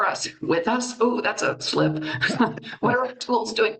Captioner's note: chuckles